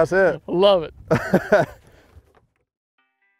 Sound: laughs; gentle music

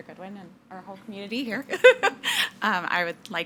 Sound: laughs

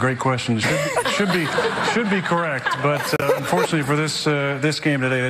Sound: laughter

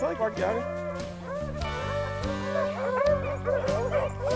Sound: dogs barking

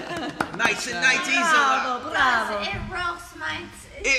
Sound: laughing

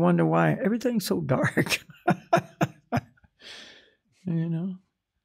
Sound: laughs

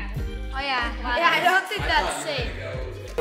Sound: kids chattering

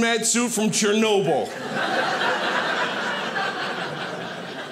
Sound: audience laughing

